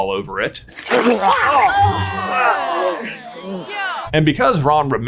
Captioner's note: crowd groaning; Ron retching